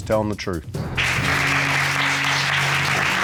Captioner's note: applause